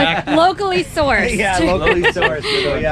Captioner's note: laughs